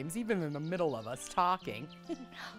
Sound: giggles

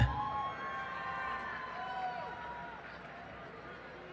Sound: cheering

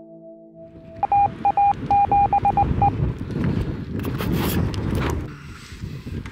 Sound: beeping

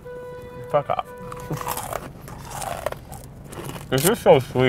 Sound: cookie crunches

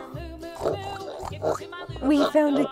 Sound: pig noises

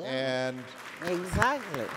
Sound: applause

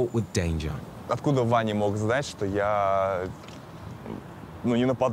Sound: speaking in foreign language

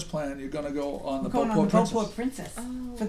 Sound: voiceover

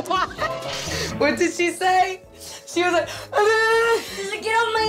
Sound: laughs; yelling

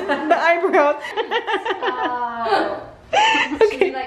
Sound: laughing

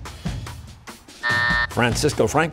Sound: buzzer

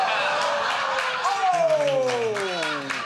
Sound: laughter; applause

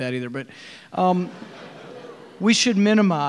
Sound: audience laughing

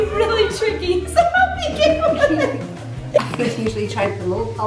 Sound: laughing

